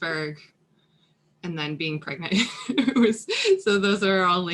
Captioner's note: laughing